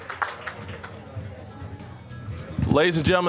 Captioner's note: applause; general chatter; light music